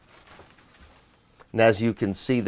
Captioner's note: inhales